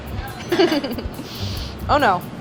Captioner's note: giggles